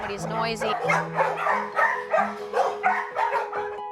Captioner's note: dogs barking